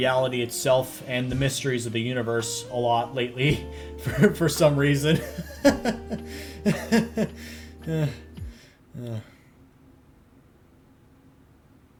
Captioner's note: laughter, followed by despair